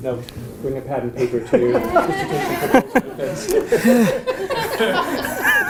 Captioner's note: laugh